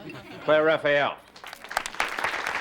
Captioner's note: audience laughs; audience applauding